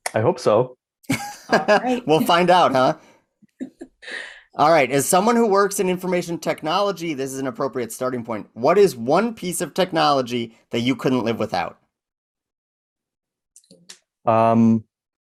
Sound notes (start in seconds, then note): 1.1 laughing